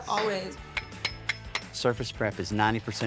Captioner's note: metal clangs